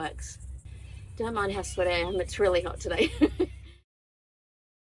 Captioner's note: chuckles